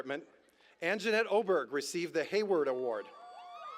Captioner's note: cheers